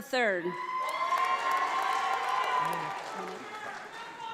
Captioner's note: audience applauding